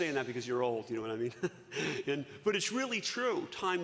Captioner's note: chuckles